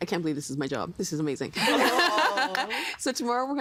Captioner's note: laughing